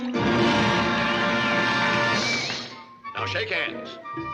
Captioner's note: feet whooshing; dramatic music; crowd cheering